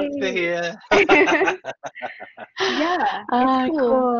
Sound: laughs

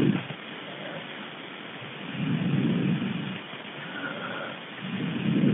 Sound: recording hissing

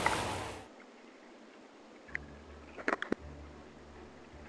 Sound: splashing

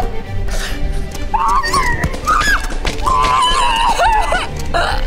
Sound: screaming

